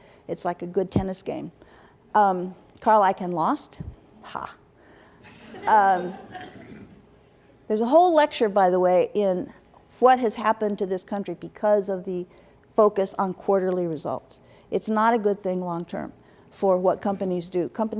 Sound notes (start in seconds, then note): 5.3 laughter